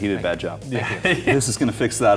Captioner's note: laughing